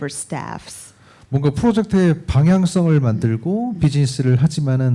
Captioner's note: speaking korean